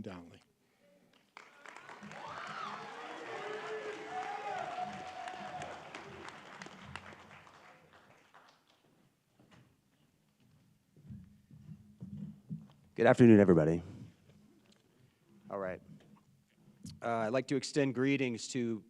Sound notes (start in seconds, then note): 3.9 applause